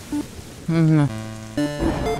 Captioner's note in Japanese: 心の声